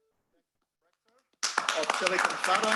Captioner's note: applause